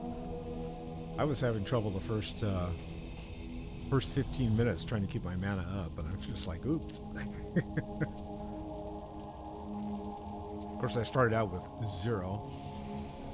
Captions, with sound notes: - I was having trouble the first 15 minutes trying to keep my manna up, but I'm just like, oops. (laughs) - Of course, I started out with zero.